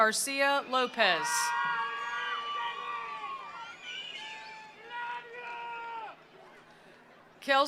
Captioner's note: attendees cheering; attendees applauding